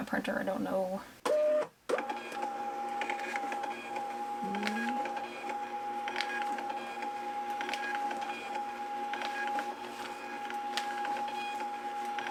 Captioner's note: printer whirring